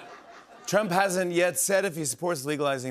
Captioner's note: laughter; normal voice